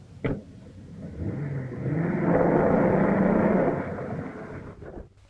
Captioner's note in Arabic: هدير المحرك